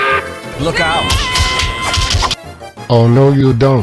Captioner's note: angry work whistle; battle cry